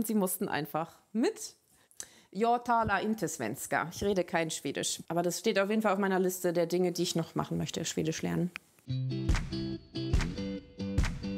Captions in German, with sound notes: Sie mussten einfach mit. (Sie sagt etwas auf Schwedisch.) Ich rede kein Schwedisch. Das ist eines der Dinge, die ich machen möchte, Schwedisch lernen. (Lässige Musik)